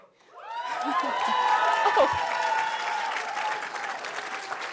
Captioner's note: audience cheering